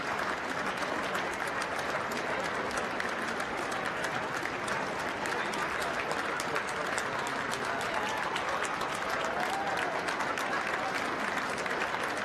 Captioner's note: applause